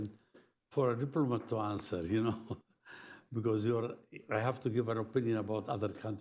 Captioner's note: laughs